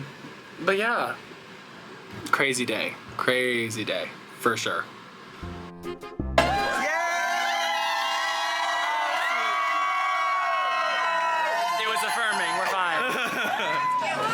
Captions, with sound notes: But yeah. Crazy day. Crazy day, for sure. (crowd cheering) It was affirming, we're fine.